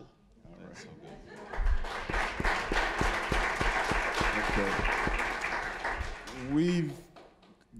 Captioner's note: applause